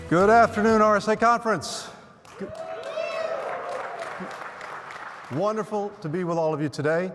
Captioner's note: cheers and applause